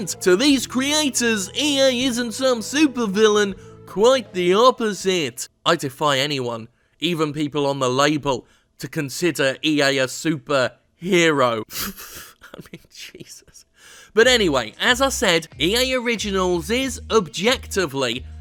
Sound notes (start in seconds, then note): 11.7 laughing